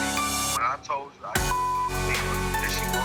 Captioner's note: beep